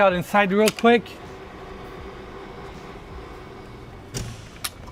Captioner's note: door humming